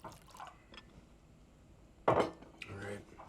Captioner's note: liquid pouring; glass thuds